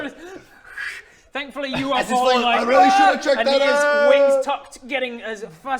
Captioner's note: aargh!